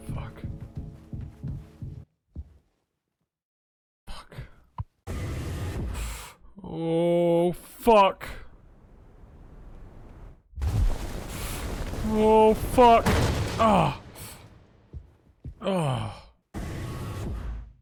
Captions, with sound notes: Fuck. Fuck. Oh, fuck! Oh, fuck! (groans)